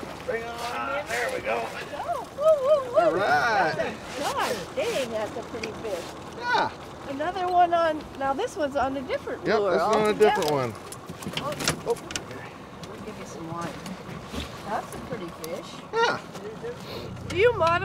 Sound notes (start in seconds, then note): 13.7 fish thrashing